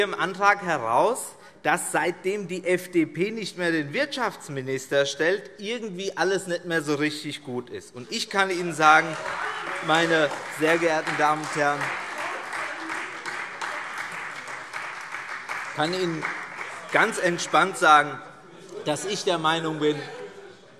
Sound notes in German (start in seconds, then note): 8.8 Lachen und Beifall Freie Demokraten